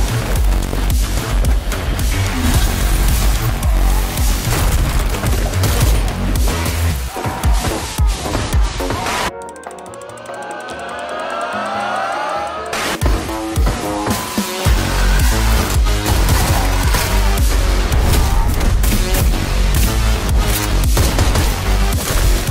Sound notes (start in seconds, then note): 0.0 upbeat fuzzy music; 7.3 gunshots fire; 9.3 elevator music; 10.6 crowd cheers; 12.6 static; 12.6 upbeat fuzzy music